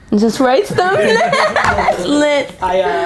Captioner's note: chuckles